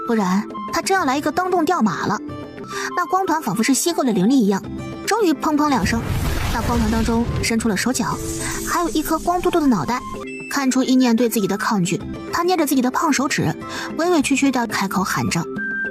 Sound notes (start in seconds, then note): 5.8 bang